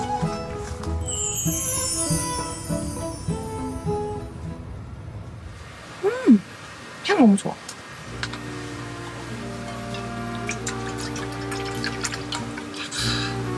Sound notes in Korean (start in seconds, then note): 10.1 콸콸콸